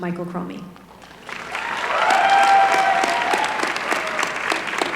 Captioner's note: applause